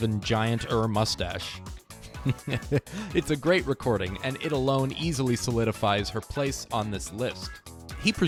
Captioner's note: laughing